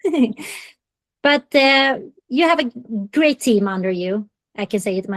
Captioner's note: laughs